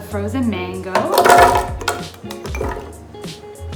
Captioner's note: clatter